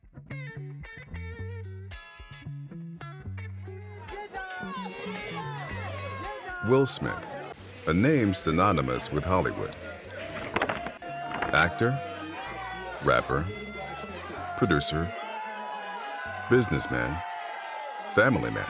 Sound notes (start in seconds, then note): 5.2 crowd; 13.3 crowd yelling indistinctly